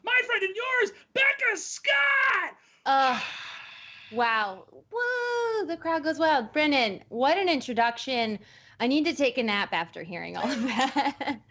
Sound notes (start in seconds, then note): 1.8 screams; 10.9 laughs